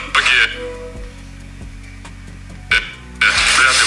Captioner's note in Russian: помехи